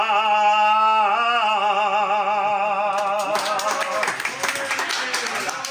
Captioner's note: applause